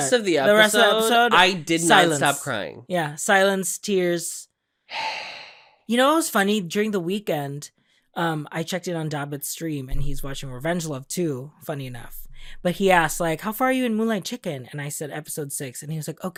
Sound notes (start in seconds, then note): 4.9 sigh